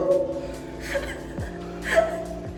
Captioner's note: laughing